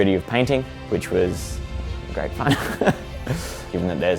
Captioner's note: chuckles